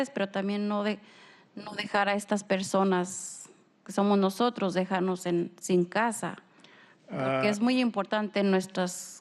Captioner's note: speaking spanish